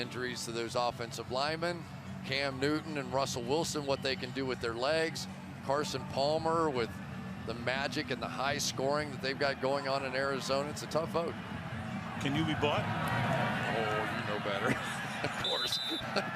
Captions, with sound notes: Carson Palmer with the magic and the high scoring that they've got going on in Arizona. It's a tough vote. Can you be bought? Oh, you know better. Of course. [laughter] You look at a guy like Tony Romo.